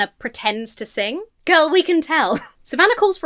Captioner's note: chuckles